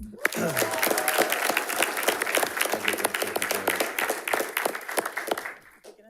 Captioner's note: audience applauding and cheering